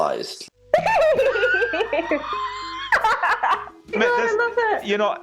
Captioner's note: laughing